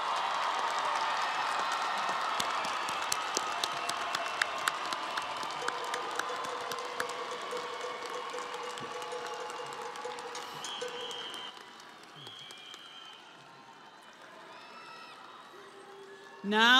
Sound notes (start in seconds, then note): 4.1 audience applauding; 4.1 crowd cheering